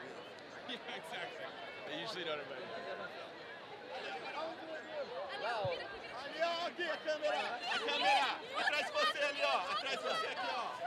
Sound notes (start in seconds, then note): 3.8 student speaking in foreign language